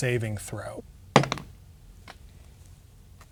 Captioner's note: dice rolling